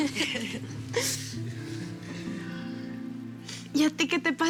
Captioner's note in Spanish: Risas